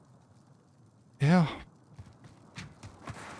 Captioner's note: sighs